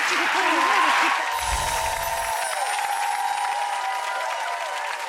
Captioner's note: audience clapping